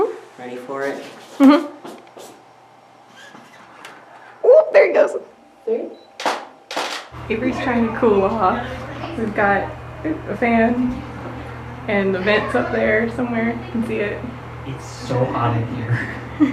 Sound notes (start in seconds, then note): 2.3 mechanical whirring; 6.7 camera shutter